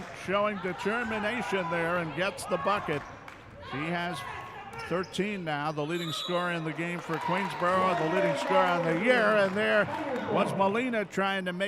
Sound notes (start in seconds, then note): 5.9 referee whistling